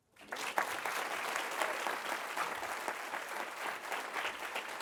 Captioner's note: applause